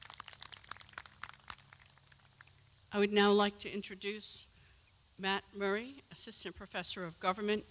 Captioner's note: applause